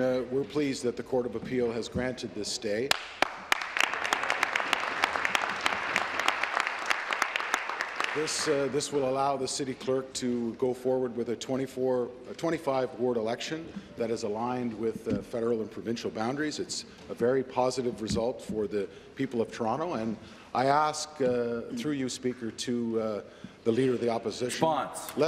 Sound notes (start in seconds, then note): 6.4 applause